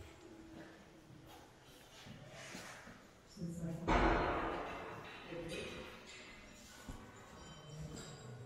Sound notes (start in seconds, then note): 4.1 doors echo